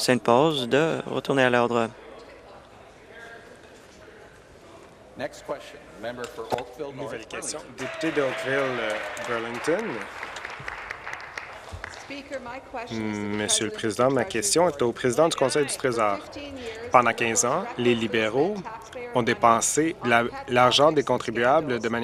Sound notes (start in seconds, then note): 11.0 applause